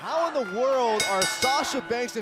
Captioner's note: bell ringing